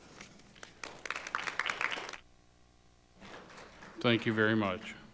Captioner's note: audience applauding